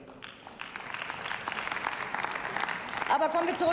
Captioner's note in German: Beifall